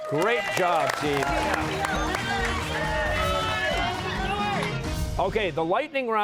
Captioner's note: cheers and applause